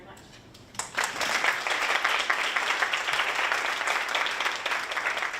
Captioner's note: audience applauding